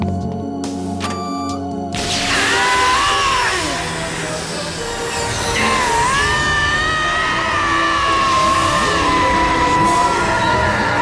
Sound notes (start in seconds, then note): 2.2 screaming; 5.5 screaming